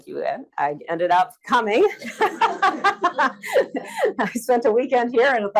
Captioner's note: laughs